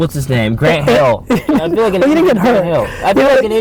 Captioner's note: laughing